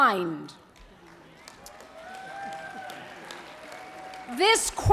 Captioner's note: applause